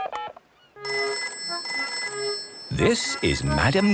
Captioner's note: dial tone; phone rings